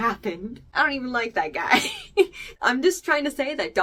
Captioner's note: laughs